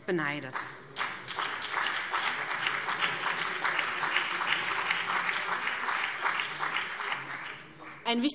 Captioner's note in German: Beifall BÜNDNIS 90/DIE GRÜNEN und vereinzelt CDU